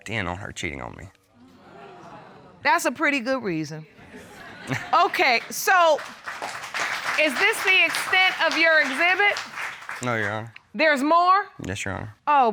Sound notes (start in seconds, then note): 4.7 applause; 4.7 chuckles